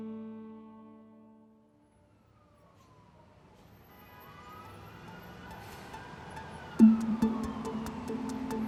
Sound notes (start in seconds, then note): 3.8 sirens wailing, horns honking